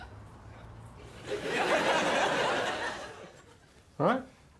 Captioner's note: audience laughing